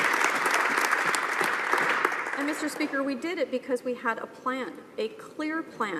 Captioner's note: some applause